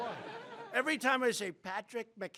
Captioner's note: laughter